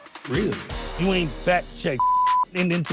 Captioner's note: beep